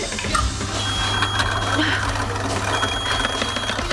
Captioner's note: garbage disposer starts; microwave beeps